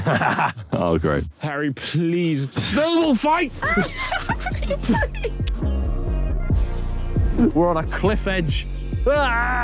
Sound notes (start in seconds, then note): 0.0 Ethan chuckling; 3.5 Tobi laughing